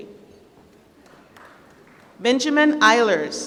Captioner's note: applause